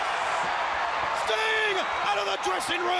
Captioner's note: crowd cheering